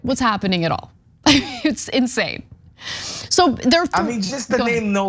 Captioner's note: laugh